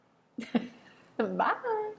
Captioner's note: laughs